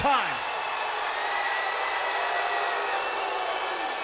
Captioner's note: crowd cheers and boos